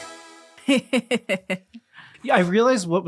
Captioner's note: laughing